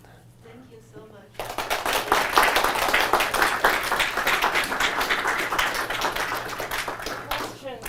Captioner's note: applause